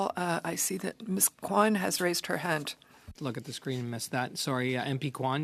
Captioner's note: speaking French